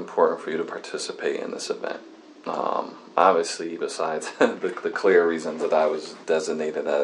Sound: laughs

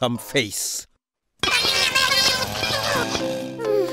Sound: furious chatter

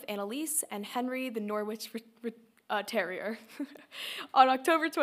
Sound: laughs

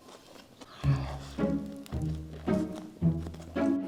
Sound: eating big

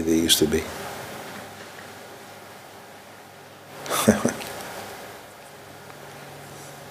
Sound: laughs

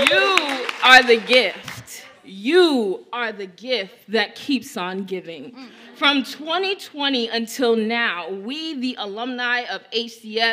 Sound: cheers and applause

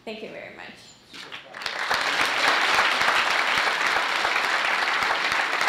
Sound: audience applauding

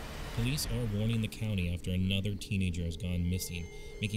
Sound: over the radio

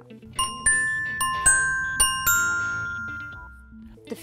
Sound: bells dinging

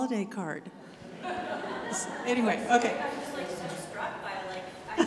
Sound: audience laughs

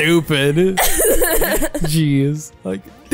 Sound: laughing

